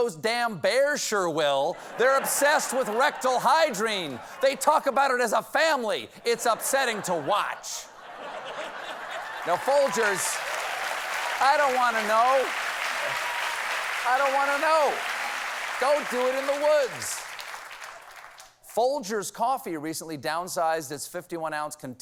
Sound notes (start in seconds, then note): 8.2 applause; 8.2 laughter